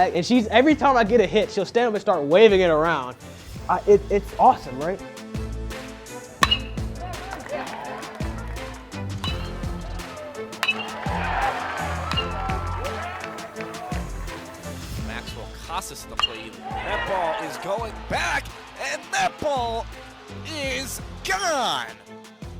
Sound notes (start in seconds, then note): 5.6 dramatic music; 6.4 bat ringing